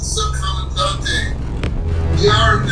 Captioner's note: speaking in foreign language